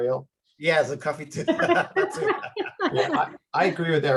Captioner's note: laughing